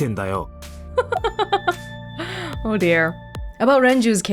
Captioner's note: chuckles